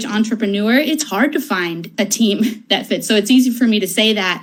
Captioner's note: laughs